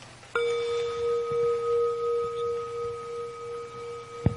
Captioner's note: bell chiming